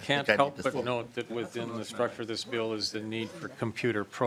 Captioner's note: laughing